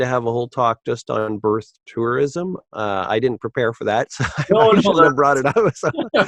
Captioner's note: laughs